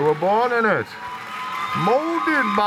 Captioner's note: cheering